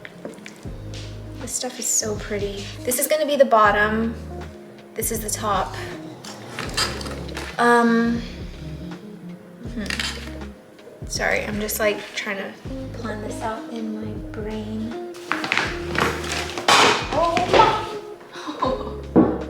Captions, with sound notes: This stuff is so pretty. This is going to be the bottom, this is the top. Sorry I'm just like trying to plan this out in my brain. [rustling] [loud bang] Whoa mom! [laughs]